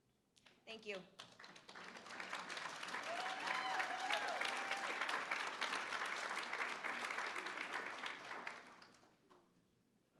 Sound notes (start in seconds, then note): 1.0 applause; 2.4 cheering